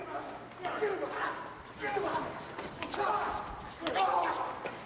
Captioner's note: the Horsemen grunting